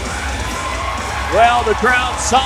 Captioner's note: audience cheering